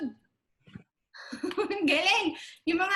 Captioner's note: laughs